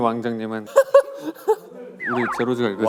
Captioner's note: haha